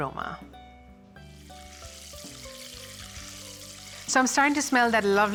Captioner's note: butter sizzling